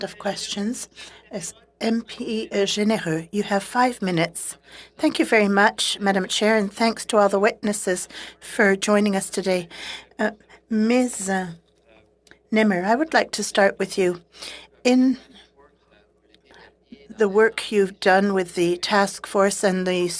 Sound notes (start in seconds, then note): 2.9 speaking French